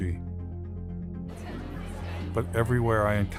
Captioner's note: kalabalık konuşuyor